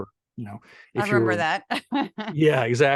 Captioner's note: laugh